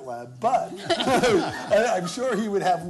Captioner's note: laughter